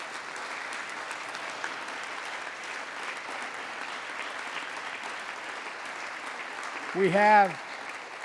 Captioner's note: applause